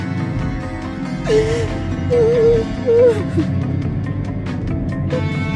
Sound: crying

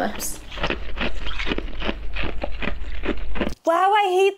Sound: hand crunching

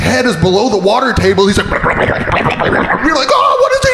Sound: gurgling

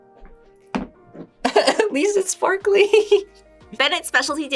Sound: giggles

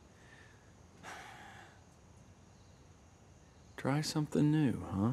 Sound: Lightning sighs

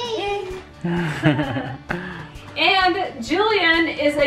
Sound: laughing

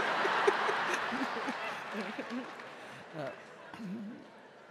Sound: audience laughing

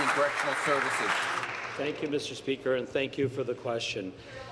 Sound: applause

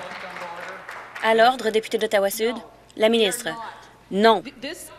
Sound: applause

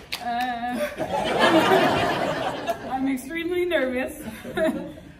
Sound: sound of people laughing

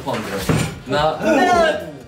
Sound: thud

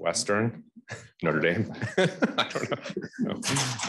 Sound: laughs

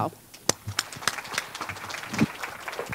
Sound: applause

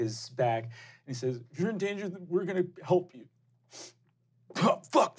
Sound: sniffs

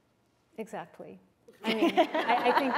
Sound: laughter

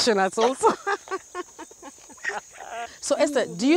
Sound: they both laugh

